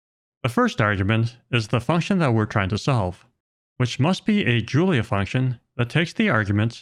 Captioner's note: none